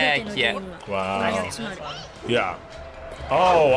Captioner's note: woman speaking in Japanese